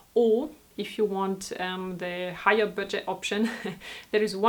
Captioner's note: laughs